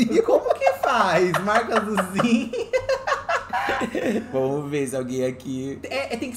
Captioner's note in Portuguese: risada